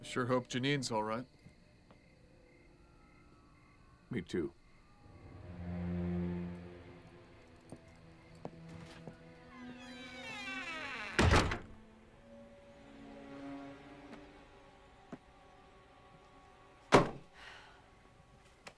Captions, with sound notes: I sure hope Jeanine's alright. - Me too. (dramatic music) (door creaks)